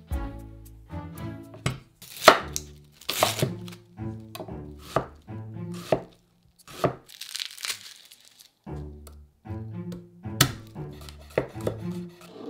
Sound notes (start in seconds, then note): 7.1 garlic paper rustling